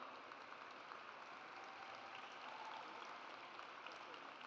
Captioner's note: audience applauds